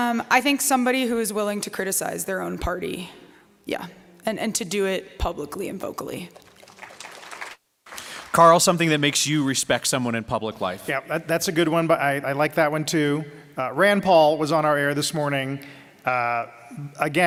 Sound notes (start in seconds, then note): 6.3 applause